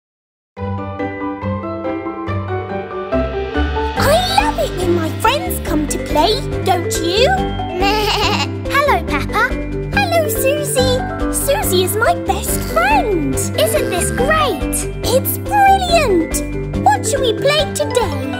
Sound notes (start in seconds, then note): 7.8 bleating